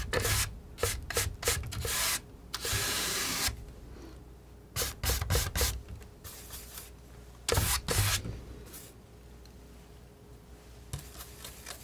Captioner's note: scratching